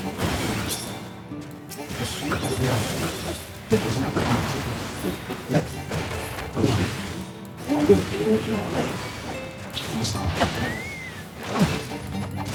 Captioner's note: gunshots